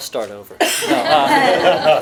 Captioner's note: laughter